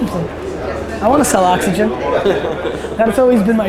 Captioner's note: laughs